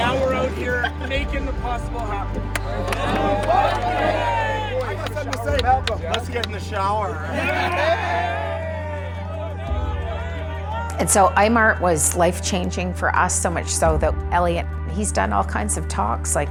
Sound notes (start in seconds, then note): 7.1 laughing and cheering